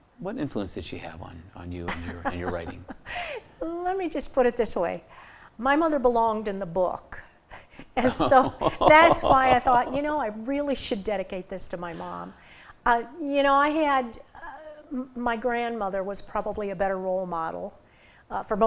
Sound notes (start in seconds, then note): 1.9 chuckles; 7.9 chuckles